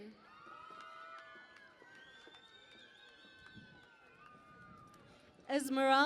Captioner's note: cheering and Applause